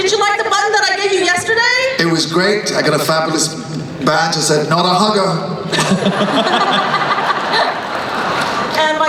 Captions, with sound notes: Did you like the button that I gave you yesterday? - It was great, I got a fabulous badge that said Not A Hugger. (laughing)